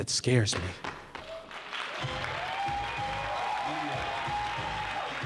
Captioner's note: crowd cheering